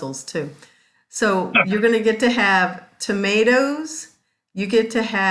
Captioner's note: laughs